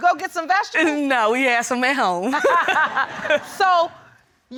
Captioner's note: laughing